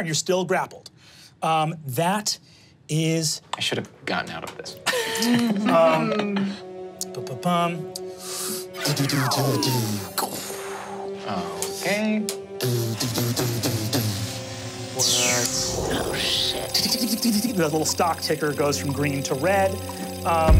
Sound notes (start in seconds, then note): 4.8 laughs; 9.2 mimics electronics buzzing